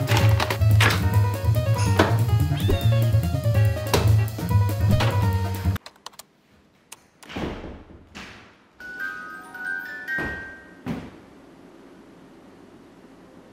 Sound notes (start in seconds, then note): 0.0 upbeat music; 0.0 objects clattering; 2.5 kitten mewing; 4.9 doors clicking; 5.1 Ouija board clattering; 5.8 keystrokes tapping; 7.8 doors opening; 8.8 music box chiming